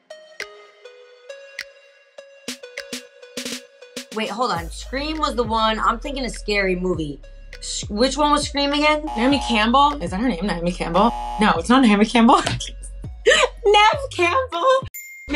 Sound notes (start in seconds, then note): 0.1 upbeat music; 9.0 buzzer rings; 10.9 buzzer rings; 13.2 laughing; 15.0 bell dings